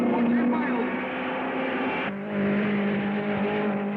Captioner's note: car revving